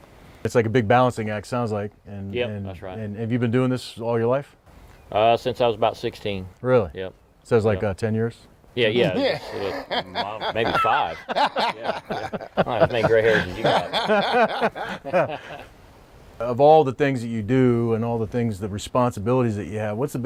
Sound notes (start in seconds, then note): 9.0 all laugh; 15.3 all laughing